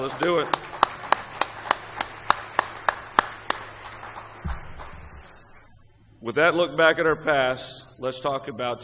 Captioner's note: applause